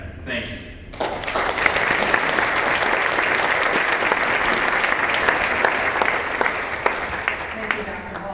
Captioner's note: applause